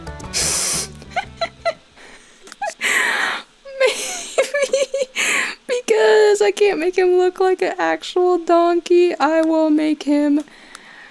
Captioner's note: chortling